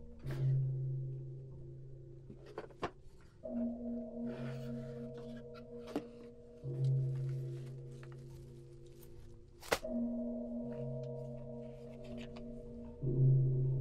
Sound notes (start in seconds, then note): none